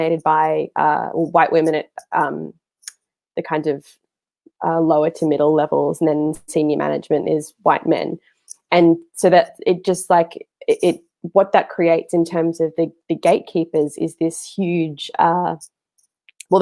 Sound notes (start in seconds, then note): none